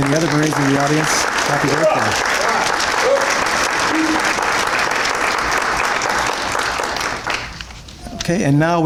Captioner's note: applause